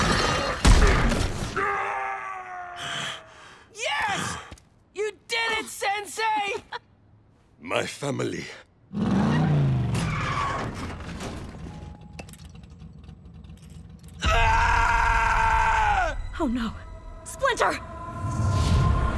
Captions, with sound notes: [thudding, screaming] Yes! You did it, Sensei. My family. [screeching] Aaah! Oh, no. Splinter!